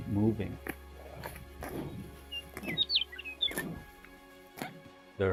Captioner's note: birds singing